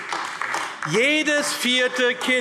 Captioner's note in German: Beifall AfD